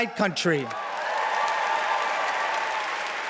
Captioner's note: cheering, applause